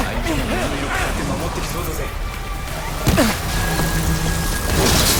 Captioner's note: speaking foreign language; person grunting; tense music